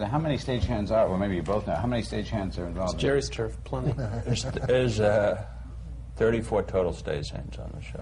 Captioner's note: laughter